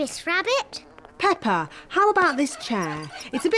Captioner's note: flies buzzing